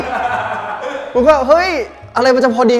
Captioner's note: laughing over his friend